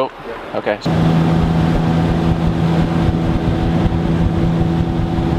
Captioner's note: boat engine revving